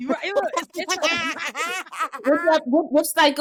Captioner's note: laughter